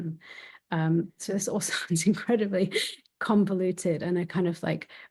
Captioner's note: chuckling